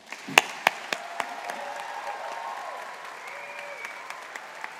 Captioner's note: audience applauding